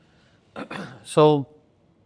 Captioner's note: clears throat